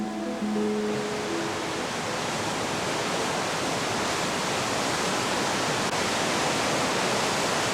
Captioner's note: water running